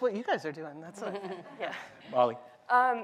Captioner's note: laughter